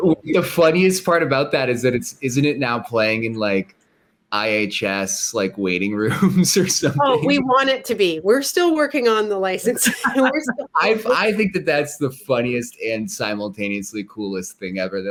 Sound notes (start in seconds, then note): 6.0 laughs; 9.7 laughter